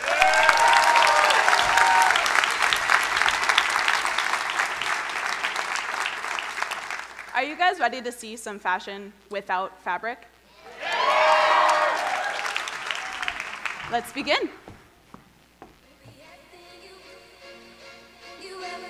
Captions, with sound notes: (crowd cheering and applauding) Are you guys ready to see some fashion without fabric? - [Crowd] Yes. - Let's begin. (upbeat music)